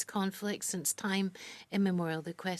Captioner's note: speaking French